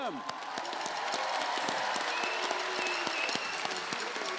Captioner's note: crowd applauding